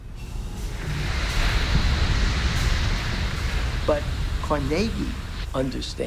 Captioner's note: sizzling